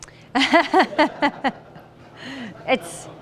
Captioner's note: laughter